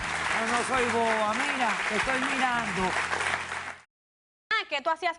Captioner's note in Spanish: aplausos